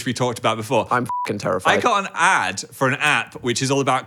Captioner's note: beep